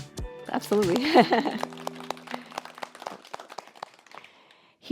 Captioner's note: audience applauding